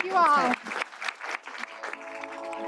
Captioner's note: applause